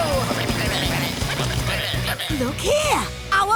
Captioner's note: croaking